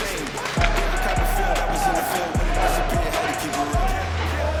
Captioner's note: coach yells